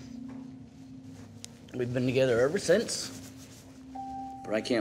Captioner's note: voice breaking